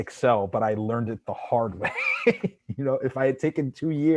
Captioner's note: laughs